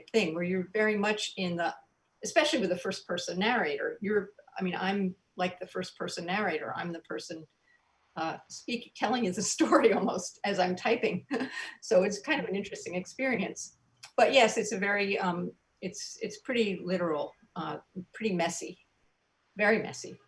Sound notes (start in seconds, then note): 9.8 soft giggles